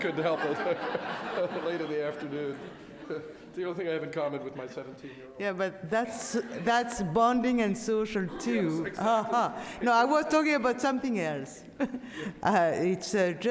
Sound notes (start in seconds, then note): 1.6 audience laughs